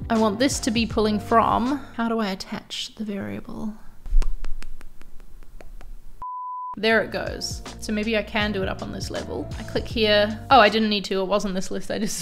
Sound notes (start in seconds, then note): 4.2 lips smacking; 6.3 electronic dinging